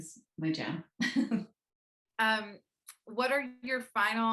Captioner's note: laughs